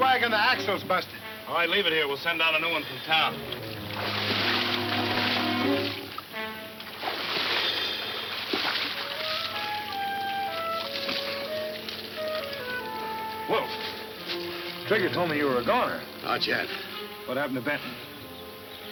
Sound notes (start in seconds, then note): 2.6 dramatic western music; 2.6 water splashing